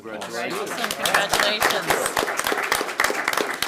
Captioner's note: audience applauding